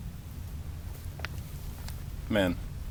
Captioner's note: lil fire crackle